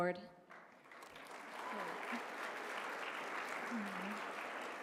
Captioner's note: applause